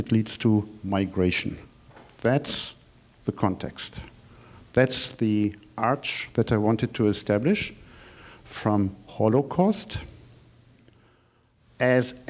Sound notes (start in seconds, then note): none